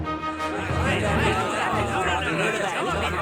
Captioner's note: arguing